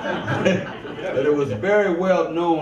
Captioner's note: audience laughs